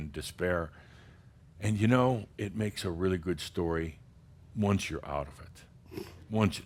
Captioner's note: snorts